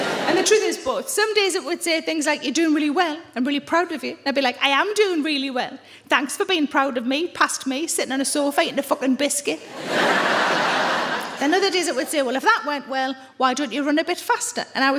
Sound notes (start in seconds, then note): 9.7 audience laughs